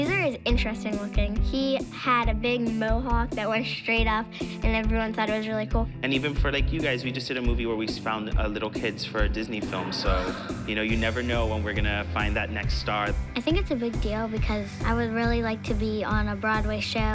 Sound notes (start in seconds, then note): 9.6 gasps